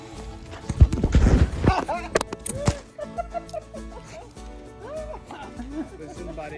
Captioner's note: scuffles, laughing